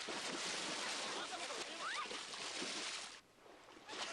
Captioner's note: shrieks